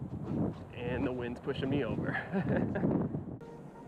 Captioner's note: laughter